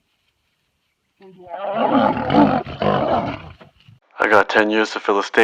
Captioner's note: lions growling